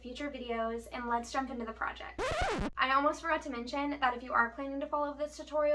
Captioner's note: record Scratch